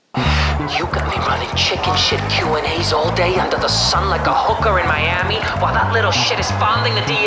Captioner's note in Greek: τηλεφωνο